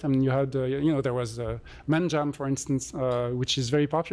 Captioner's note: non-english